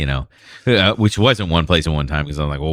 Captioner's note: uh